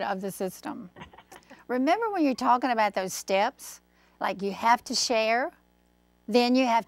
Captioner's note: laughing